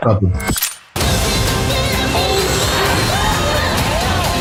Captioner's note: explosions; upbeat music